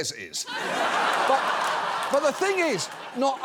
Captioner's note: audience laughing